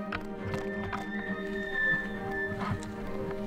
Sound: elk bugling

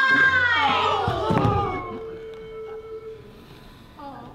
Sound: gasps and shrieks

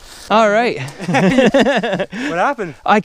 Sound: gentleman laughing

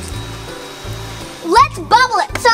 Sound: fan engine humming

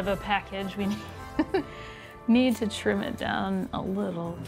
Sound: laughs

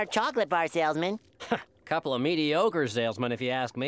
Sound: chuckles

